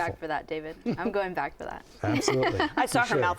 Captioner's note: laughs